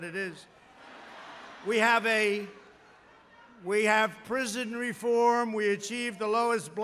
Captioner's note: laughter